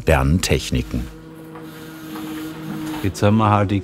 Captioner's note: machine whirring